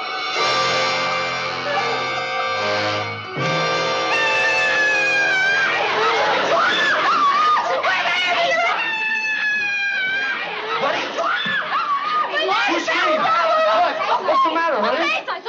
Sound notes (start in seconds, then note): 0.1 dramatic music; 4.4 screams